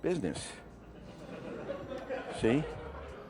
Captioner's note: audience laughing